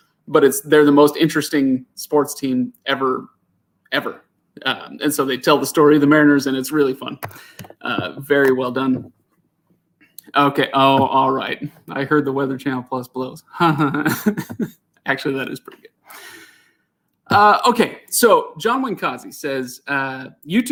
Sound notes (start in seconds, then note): 13.6 laughs